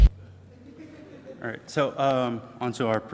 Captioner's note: audience laughs